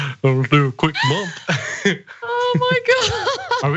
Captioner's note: laugh